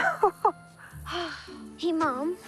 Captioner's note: chuckling, sighing